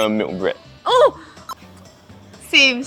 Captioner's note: squeals